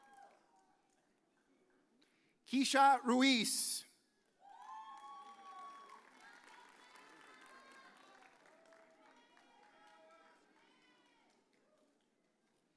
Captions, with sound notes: Keisha Ruiz. (audience cheers)